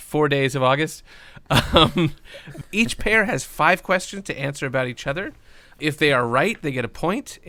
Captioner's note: laughs